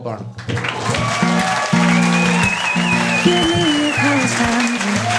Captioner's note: audience applauding